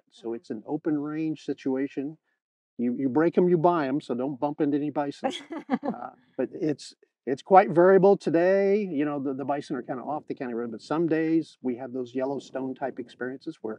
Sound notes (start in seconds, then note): 5.3 host laughing